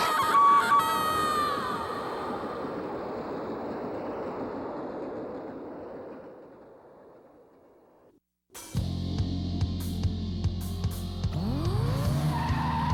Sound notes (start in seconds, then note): 1.5 train roars; 8.7 fast-paced music